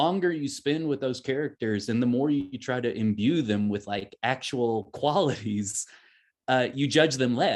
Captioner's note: chuckles